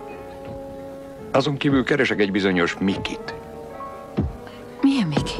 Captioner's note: thumping